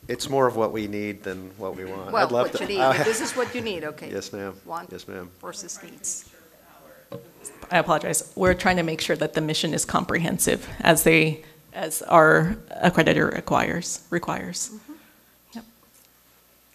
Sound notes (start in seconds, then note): 6.9 murmurs